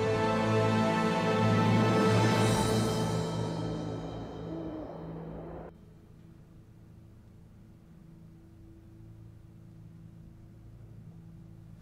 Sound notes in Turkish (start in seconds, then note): 2.5 Baykuş sesi